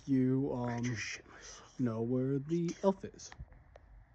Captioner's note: whispering